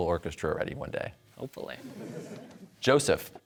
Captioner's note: audience laughter